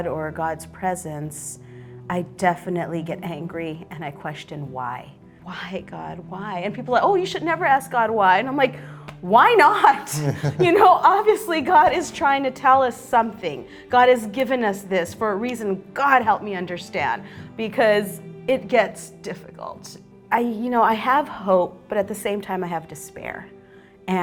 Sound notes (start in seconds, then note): 10.1 both chuckle